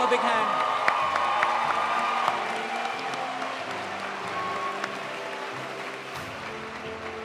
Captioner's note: audience cheering; audience applauding